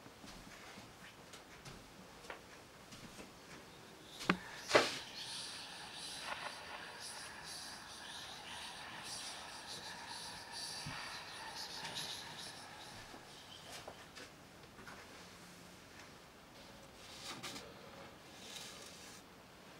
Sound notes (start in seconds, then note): 3.6 ghostly whispering